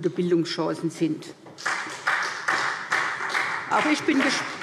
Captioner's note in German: Beifall SPD